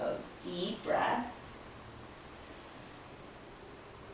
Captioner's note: breathing sounds